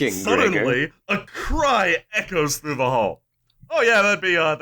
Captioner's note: suddenly, a cry echoes through the hall